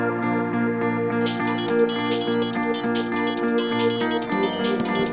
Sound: phone ringing

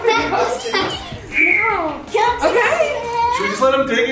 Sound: kids screaming excitedly

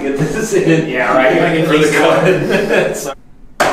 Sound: laughing

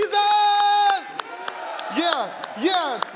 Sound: applause

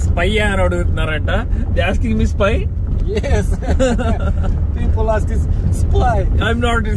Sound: laughs

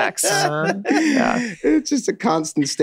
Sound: group laughs

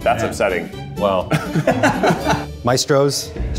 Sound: laughing

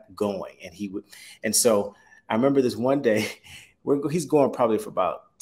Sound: chuckles

